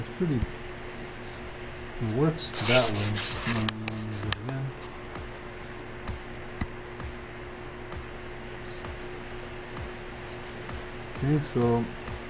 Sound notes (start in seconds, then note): 3.7 humming; 5.9 faint techno music